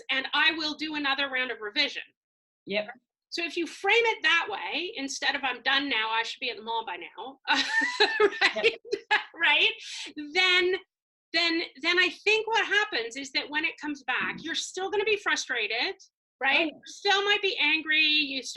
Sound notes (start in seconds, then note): 7.6 laugh